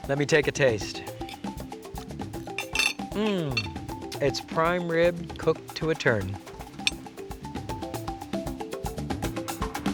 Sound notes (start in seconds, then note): 1.1 tribal music; 3.2 groaning; 6.3 tribal music